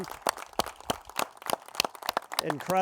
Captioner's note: crowd applauding